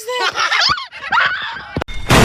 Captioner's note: laughter intensifies; screaming